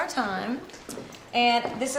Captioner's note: footsteps thudding